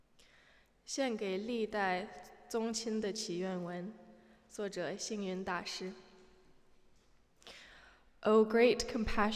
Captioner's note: non-english speech